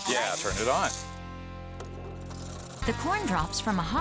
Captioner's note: cutter starts up